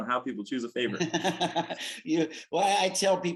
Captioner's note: chuckles